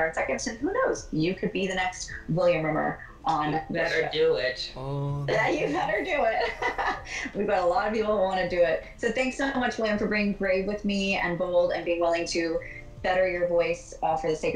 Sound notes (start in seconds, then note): 5.3 imitating my voice; 6.7 laughs